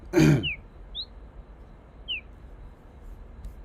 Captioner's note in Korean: 목을 가다듬음